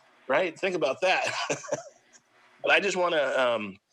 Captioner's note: laughs